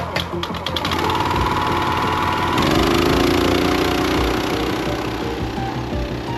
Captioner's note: splitter sputtering; upbeat music; splitter rumbling